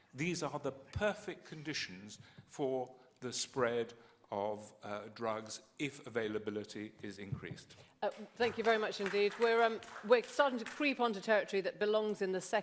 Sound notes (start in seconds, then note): 8.1 applause